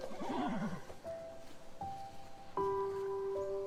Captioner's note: horse neighing